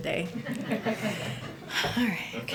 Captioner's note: laughter